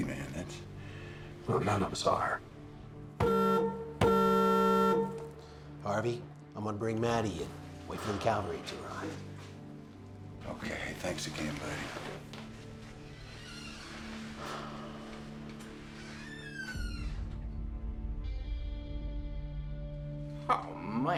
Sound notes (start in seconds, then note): 3.2 horn honking; 13.1 door opens